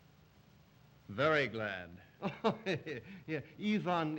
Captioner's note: Zaroff laughs